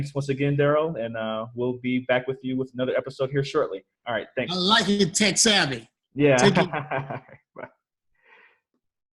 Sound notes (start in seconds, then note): 6.4 laughter